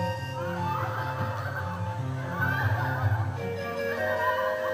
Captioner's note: γέλια κοριτσιών